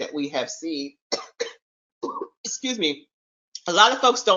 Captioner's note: coughs